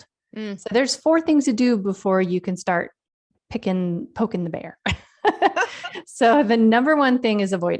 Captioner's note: laughs